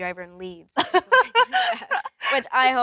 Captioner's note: Elle laughs